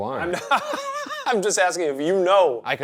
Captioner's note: Shane laughs